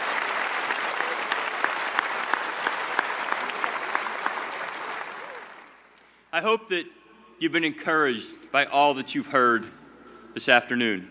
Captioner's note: cheers and applause